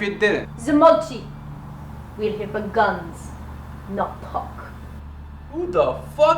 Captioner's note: speaks Russian